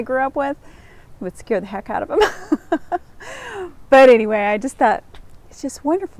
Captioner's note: laughs